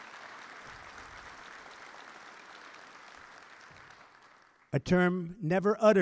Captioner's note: applause